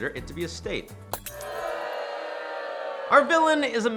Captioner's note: crowd booing